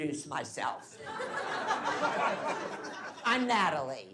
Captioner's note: laughing